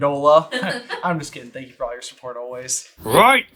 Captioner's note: laughter